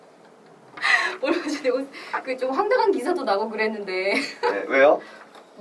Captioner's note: laughs